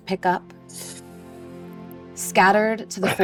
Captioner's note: inhales sharply